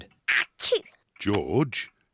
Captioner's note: sneezes